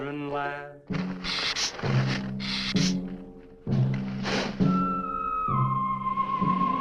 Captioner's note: dramatic music; lizard hissing